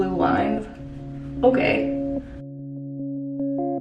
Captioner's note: sarcastic